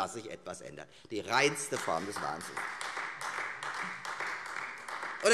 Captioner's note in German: Beifall Freie Demokraten